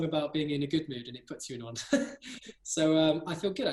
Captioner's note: laugh